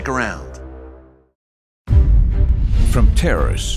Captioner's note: bomb explodes